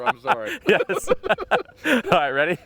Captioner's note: laughing